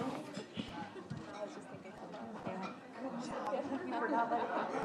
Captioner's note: indistinct chatters